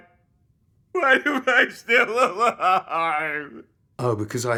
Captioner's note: Ridge crying